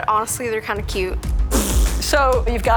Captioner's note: blows raspberry